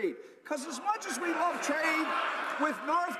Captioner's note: laughter